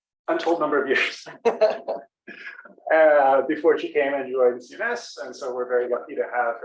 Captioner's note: laugh